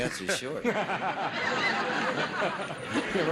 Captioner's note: audience laughs